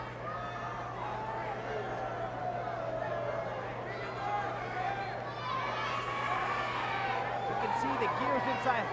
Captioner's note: applause